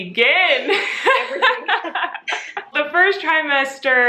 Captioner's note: Colleen laughs